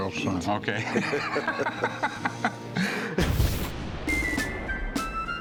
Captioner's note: laughter